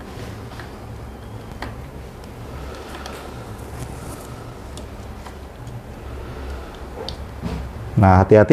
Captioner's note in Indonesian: suara damper dipasang